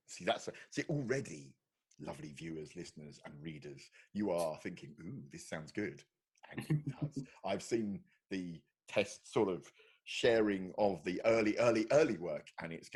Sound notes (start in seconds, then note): 6.6 laughing